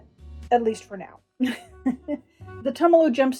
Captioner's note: laughter